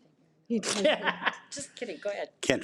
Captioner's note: participant laughs